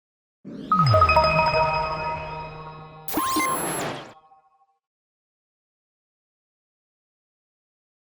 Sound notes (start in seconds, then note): 0.6 logo whooshing